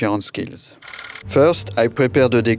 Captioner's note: slide rolling